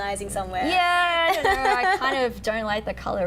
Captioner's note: laughing